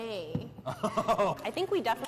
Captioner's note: laughs